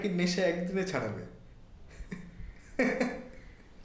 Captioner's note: laughs